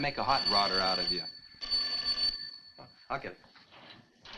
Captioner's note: telephone rings